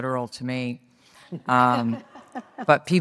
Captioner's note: audience laughs